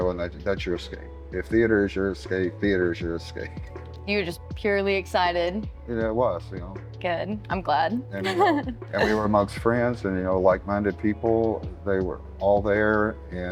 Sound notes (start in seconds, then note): 8.2 laughter